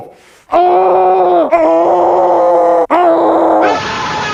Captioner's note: sounds of a frantic despair